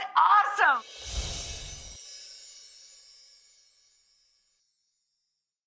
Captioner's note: chimes ringing